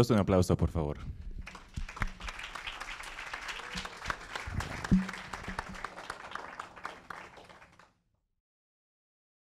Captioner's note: applause